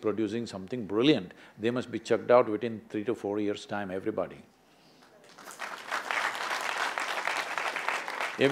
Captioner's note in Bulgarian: аплодисменти